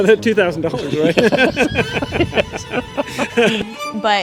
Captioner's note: laughing